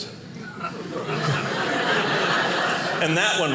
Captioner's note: audience laughing